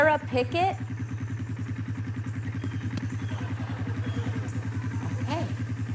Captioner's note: engine idling